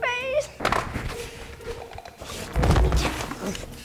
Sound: loud thud

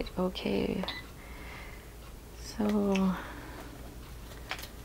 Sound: machine beeping

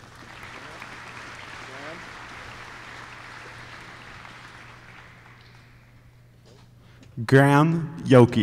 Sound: applause

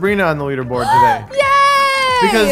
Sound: gasps

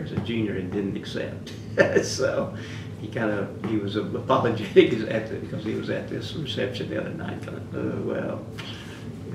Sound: laughs

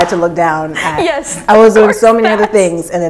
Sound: laughing

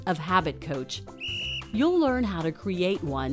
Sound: whistle blows

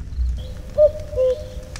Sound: cuckoo

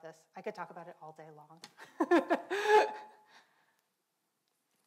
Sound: laughs

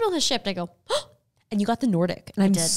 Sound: gasps

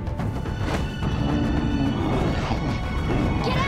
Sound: grunting

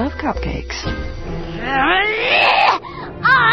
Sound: Jenny Silverback growls

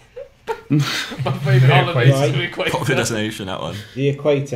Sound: students murmur

